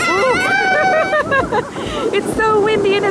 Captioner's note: children screming; laughs